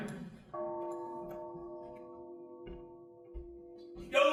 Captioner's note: crowd laughing; bell dings